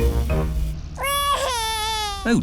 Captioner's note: crying